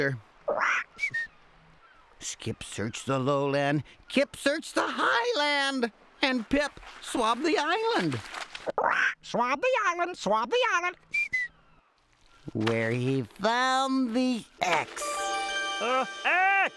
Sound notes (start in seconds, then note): 1.0 squawks and whistles; 8.4 squawks; 10.8 whistles